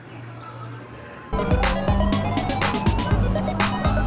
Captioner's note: machines beeping